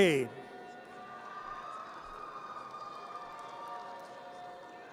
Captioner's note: audience cheers